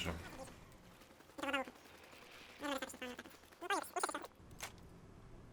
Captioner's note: funny speeded-up voices